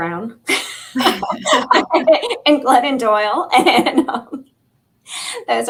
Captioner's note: laughter